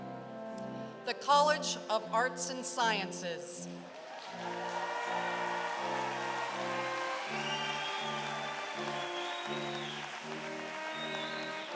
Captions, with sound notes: The College of Arts and Sciences. [APPLAUSE]